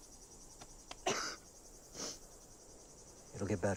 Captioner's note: Dylan coughing